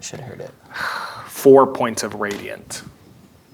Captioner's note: sighs